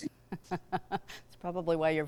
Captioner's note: chuckles